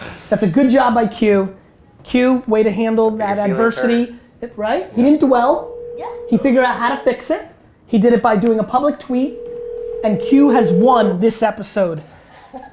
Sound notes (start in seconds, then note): 9.1 phone ringing